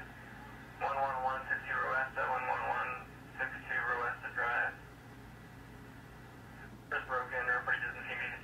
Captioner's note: police radio sounds